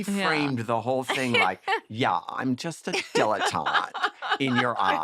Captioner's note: valley girl accent